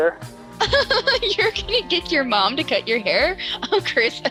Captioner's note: laughter